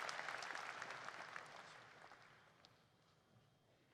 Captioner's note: applause